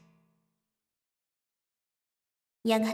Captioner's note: silence